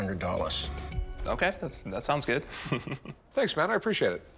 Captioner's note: laughing